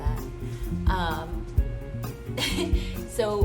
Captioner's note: laugh